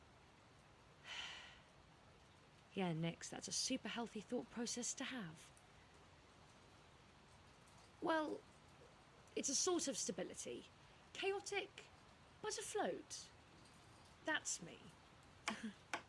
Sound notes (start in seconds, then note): 1.0 nyx sighs; 15.5 laughs; 15.9 tapping noises